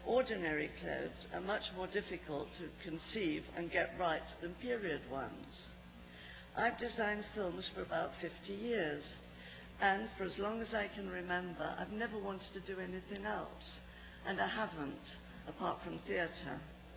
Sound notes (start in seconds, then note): none